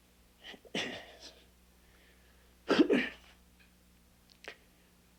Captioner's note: Augustus clearing throat